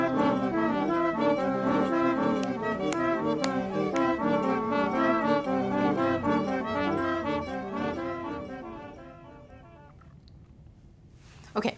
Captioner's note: clapping